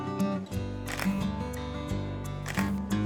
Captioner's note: camera clicks